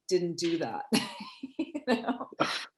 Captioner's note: laughing